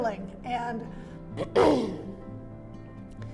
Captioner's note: clears throat